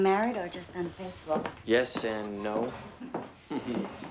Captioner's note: chuckles